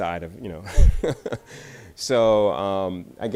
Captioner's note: laughs